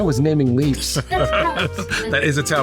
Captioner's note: laughing